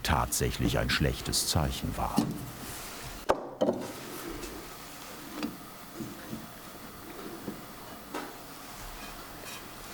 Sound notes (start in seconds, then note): 3.2 clattering